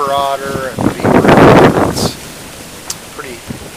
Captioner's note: wind